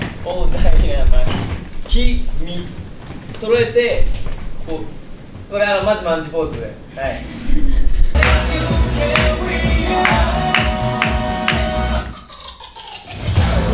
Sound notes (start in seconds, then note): 6.8 soft laughter